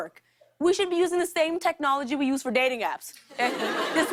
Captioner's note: laughter